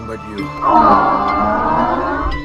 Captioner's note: awww